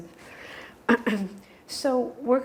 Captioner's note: clears throat